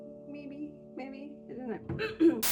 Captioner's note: clears throat